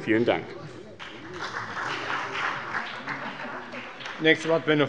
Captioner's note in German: Beifall bei der CDU und dem BÜNDNIS 90/DIE GRÜNEN